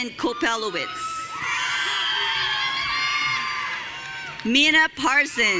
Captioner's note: audience cheering